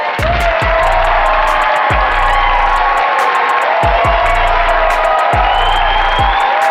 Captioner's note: audience cheering